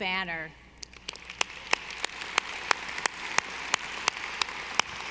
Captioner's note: audience applauding